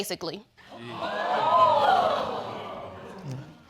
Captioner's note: audience exclaiming